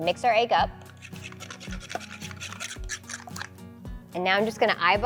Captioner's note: whisk tapping